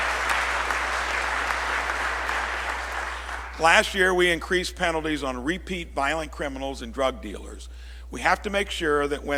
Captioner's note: applause